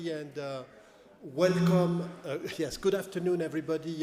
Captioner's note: microphone feedback buzzing